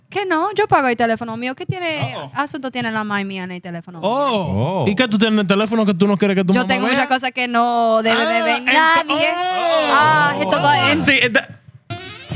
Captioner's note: speaking In Foreign Language; laughing